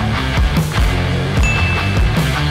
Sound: upbeat music; ding

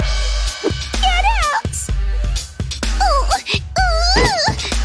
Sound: moaning

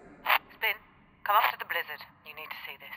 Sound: radio

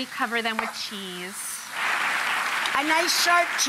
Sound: clapping

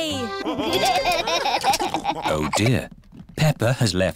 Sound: laughter

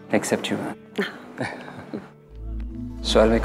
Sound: both laughs

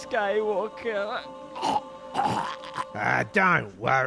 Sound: death rattle

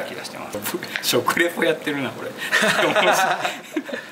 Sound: laughs

